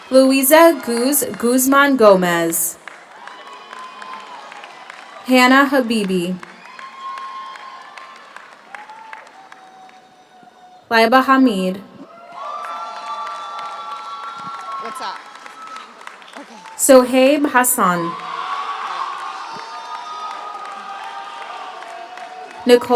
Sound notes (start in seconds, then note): 3.5 audience applauds; 3.5 audience cheers; 7.1 audience applauds; 7.1 audience cheers; 12.0 audience applauds; 12.6 audience cheers; 17.9 audience applauds; 18.8 audience cheers